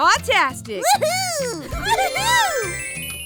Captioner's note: transition tones